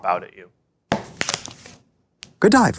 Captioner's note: wrapper tears